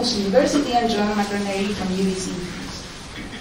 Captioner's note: murmurs